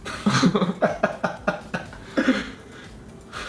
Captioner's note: laughing